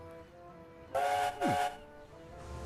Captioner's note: skarloey whistles